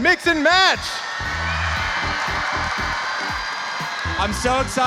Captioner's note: crowd cheering